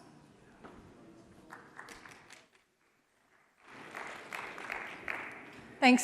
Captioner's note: applause